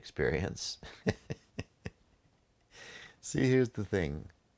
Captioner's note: chuckles